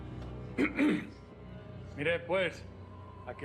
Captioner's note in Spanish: carraspea